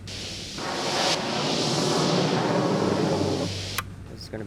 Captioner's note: loud static; aircraft whirring